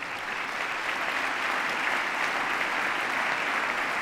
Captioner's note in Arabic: تصفيق